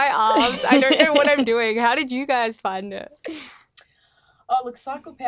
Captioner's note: laughing